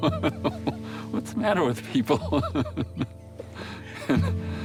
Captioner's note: laughing; laughing